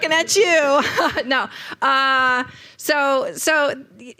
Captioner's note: chuckles